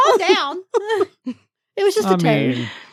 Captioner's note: both laughing